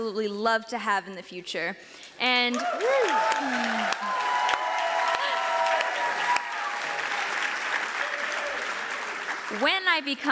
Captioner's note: audience cheers